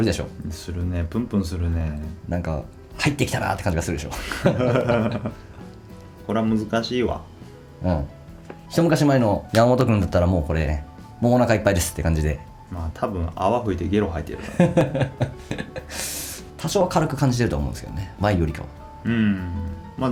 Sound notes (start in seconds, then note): 14.4 laughs